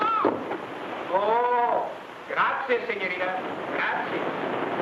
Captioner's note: speaks in foreign language